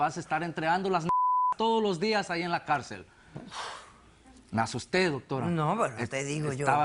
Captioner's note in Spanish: Bip